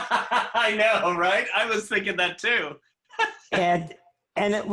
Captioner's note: laughter